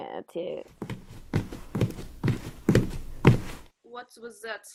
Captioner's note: running footsteps approaching